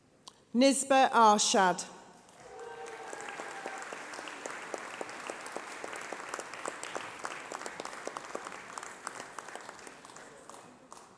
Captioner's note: applause